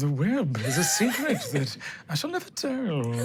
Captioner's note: laughs; everyone chuckles